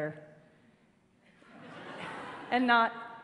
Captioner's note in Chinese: 笑聲